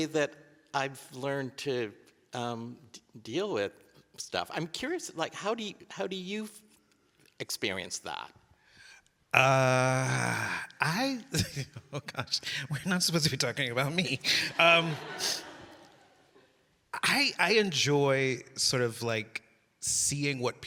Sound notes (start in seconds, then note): 11.2 laughs; 14.1 audience laughing